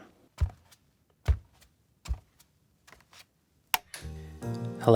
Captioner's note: footsteps, slow soft